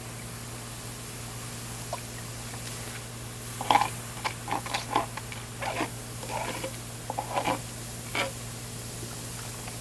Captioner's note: scraping and water splashing